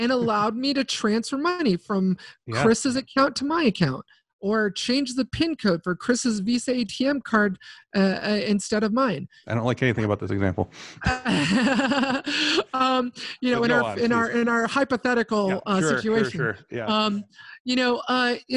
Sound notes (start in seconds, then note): 10.7 chuckle